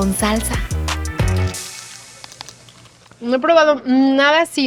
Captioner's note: crunching